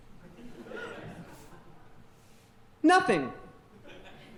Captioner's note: audience laughing